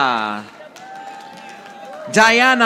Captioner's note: audience applauding